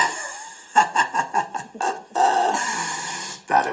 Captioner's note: Gelach